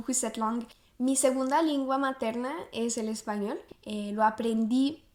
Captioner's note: in Spanish